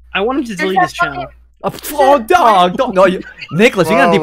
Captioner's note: laughs